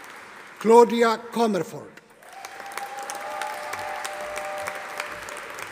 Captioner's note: audience applauding